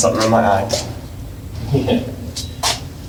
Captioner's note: chuckles